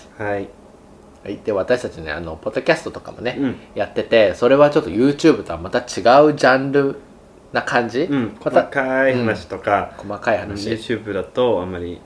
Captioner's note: Japanese language